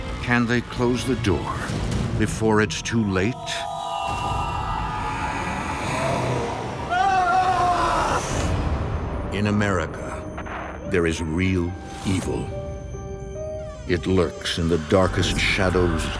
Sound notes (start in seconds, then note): 4.6 growling; 4.6 strident tones; 7.1 Keith screaming